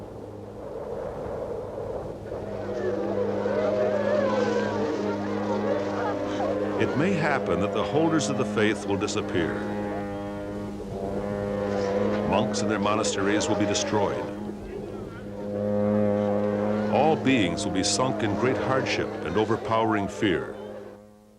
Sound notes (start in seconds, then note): 2.2 wind blowing; 5.9 a long horn sounds; 11.5 long horn continues; 16.0 long horn continues